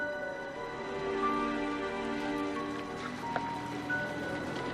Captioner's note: car engine rumbling